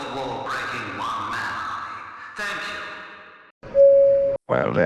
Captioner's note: intercom Beep